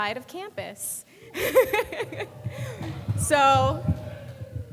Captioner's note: speaker laughs